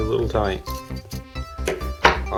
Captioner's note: bang